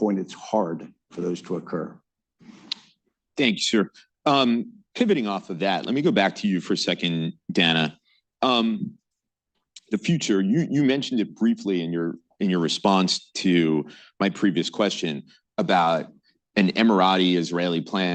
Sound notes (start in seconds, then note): none